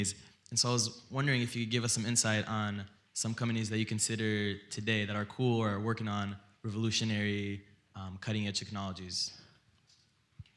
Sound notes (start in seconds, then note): none